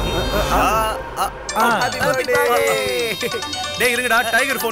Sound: phone rings

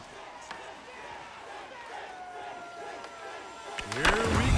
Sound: crowd chanting

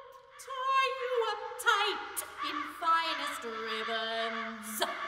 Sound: crows

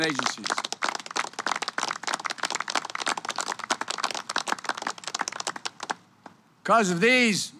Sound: applause

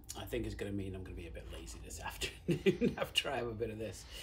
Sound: chuckles

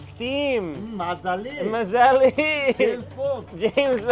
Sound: in foreign language

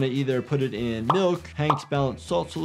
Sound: milk pops

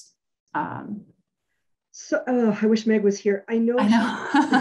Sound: laughs

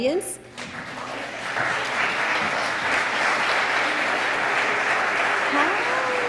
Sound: applause

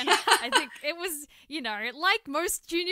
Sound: laughter

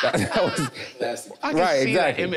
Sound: everyone laughing amusingly

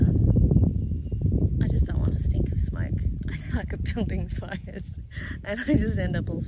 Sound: laughing

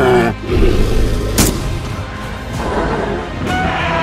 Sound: shot fired; T-Rex Roars

